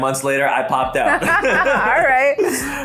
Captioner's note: laughing together